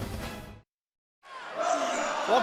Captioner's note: fans chanting